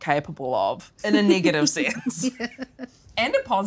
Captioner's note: laughing